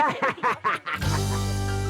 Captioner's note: laughing